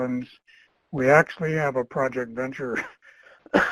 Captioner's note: coughs